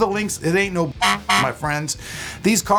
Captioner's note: horn honking